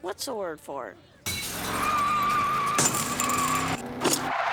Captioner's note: tires squealing